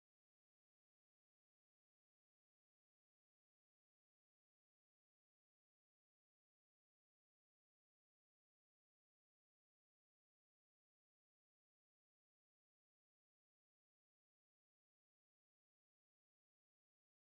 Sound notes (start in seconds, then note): none